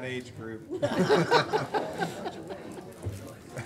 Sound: laughing

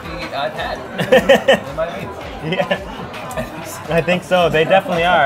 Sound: laughs

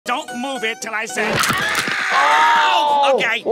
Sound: screaming

